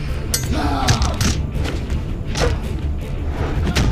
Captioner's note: thudding